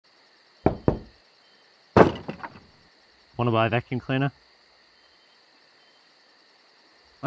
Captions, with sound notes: (Door knocking noises) Wanna buy a vacuum cleaner?